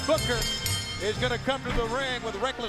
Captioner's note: bell ringing